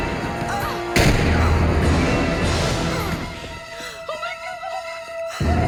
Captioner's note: suspenseful orchestral music; gun firing; grunting